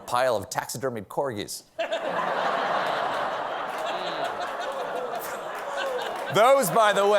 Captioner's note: laughter